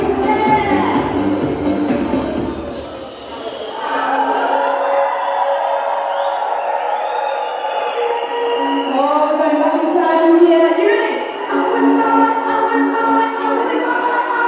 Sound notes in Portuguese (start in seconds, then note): 4.8 Aplausos